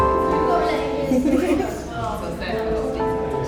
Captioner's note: laughter